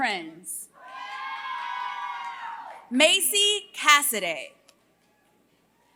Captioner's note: applause